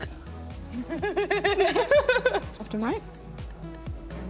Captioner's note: laughs